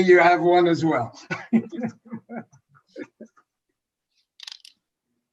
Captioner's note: laughs